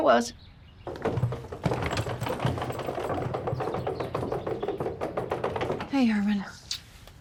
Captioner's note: rolling luggage; blows a kiss